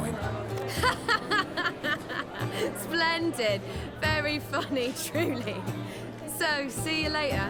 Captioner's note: boisterous laugh